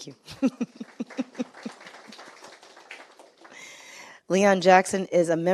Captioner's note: audience clapping